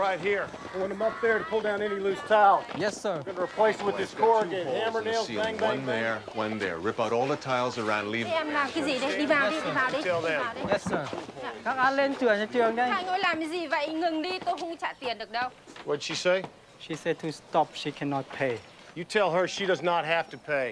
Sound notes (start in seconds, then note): 11.5 Vietnamese